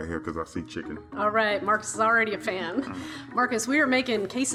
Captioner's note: chuckles